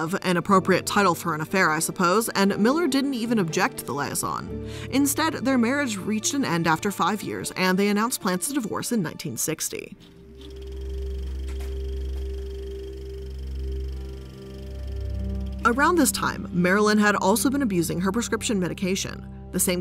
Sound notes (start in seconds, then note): 10.1 reel rattling